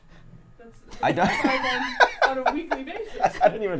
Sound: laughs

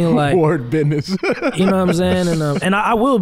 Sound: laughing

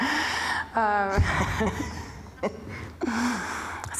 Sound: laughing

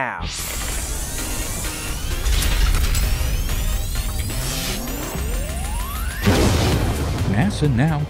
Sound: sound Effects

